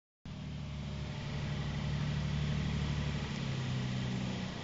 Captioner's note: motor running